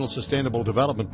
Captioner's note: voiceover